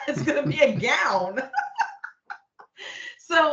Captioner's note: laughing